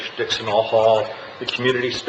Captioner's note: none